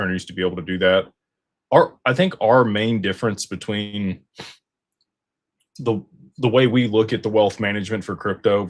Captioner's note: snorts